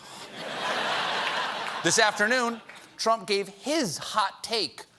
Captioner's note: laughter